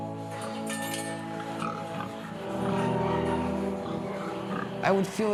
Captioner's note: pigs grunting